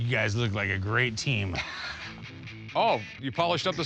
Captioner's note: laughing